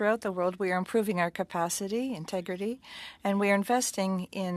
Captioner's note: speaking French